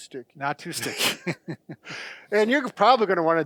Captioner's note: laughing